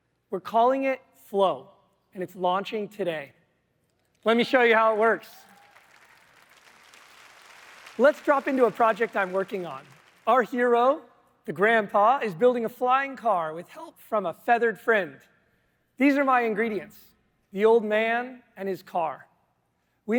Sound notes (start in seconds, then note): 4.3 applause